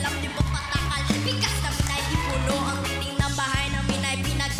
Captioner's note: applause, cheering